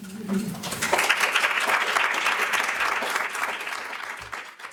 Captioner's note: audience applauds